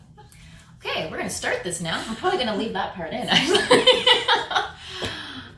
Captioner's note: laughter